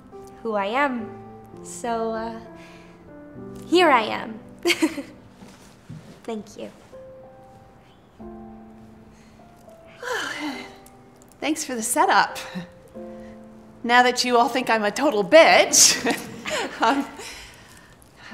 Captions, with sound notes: ...who I am! So, uh... Here I am! Thank you. [whispering] Hi! [Long sigh] Thanks for the set up! Now that you all think I'm a total bitch!